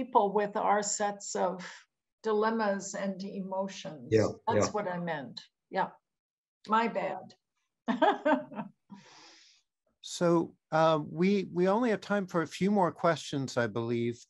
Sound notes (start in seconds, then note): 7.6 laughs